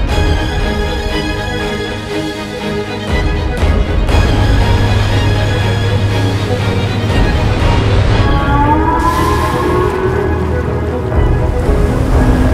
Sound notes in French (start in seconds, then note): 8.2 Chant d'un rorqual